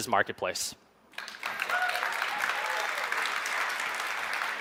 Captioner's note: audience claps